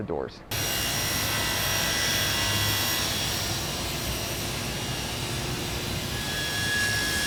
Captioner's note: loud buzzing saw